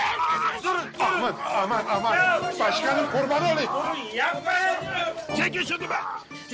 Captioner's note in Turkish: Kargaşa ve bağrışma sesleri gelir